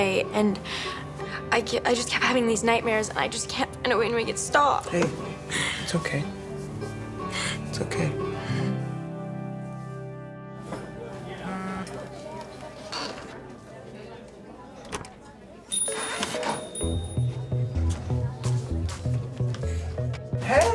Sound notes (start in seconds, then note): 8.6 bright music; 11.4 phone vibrates; 15.7 door bells ring; 15.7 whimsical music